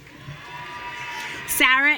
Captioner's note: audience cheering